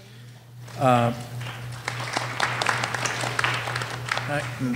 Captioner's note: applause